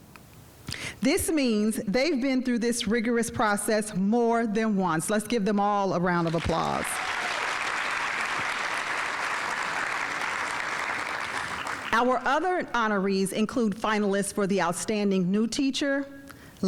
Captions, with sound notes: This means they've been through this rigorous process more than once. Let's give them all a round of applause. (audience applauding) Our other honorees include finalists for the Outstanding New Teacher,